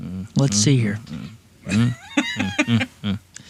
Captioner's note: laughing